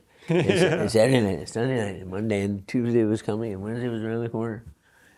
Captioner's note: laughs